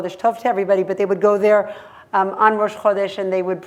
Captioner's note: hebrew; hebrew